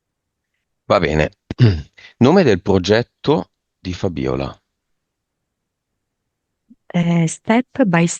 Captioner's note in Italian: schiarire la voce